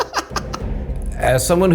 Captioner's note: laughs